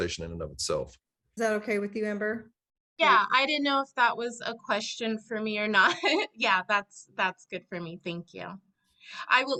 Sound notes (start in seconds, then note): 5.8 chuckles